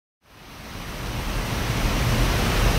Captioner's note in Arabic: مياه مندفعة